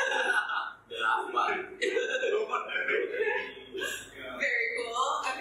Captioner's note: giggling about something in Thai